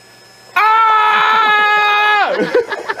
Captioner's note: screams